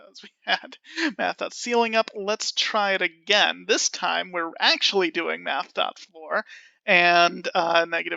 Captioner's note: laughing